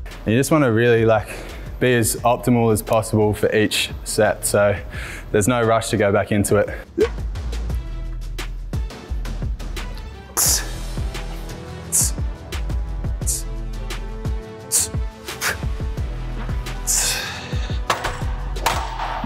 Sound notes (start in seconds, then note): 6.7 sighing heavily; 6.7 upbeat music